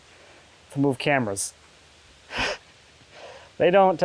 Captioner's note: laughing